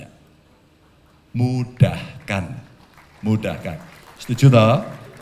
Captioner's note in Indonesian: tepuk tangan